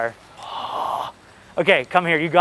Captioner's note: gasping